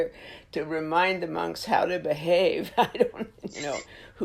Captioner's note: laughs